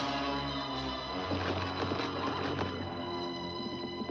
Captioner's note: thud; thump; hooves pounding